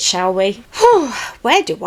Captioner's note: sighs